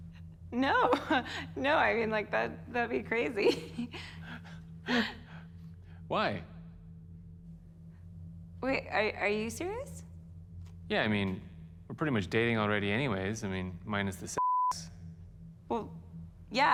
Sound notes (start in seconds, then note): 3.4 chuckles